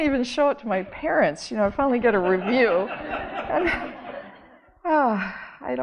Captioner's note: audience laughing